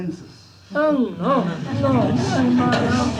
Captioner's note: laughter